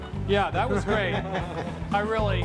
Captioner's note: all laughing